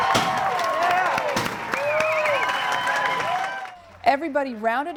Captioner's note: cheering